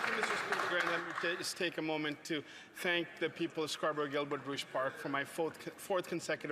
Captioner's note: some Applause